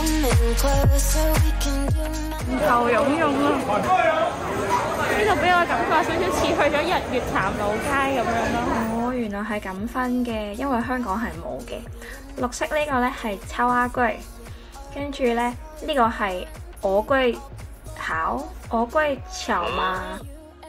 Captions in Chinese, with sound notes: 人頭湧湧 這裡給我的感覺是 有像去了日月潭老街 原來他們是這樣分別的 因為香港是沒有的 綠色這個叫 然後這個是 芋粿（台語）巧（廣東話） ㄡ ㄍㄨㄟ、 巧嗎？